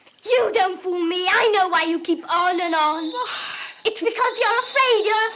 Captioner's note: gasps